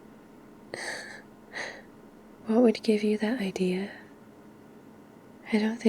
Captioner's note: quiet laugh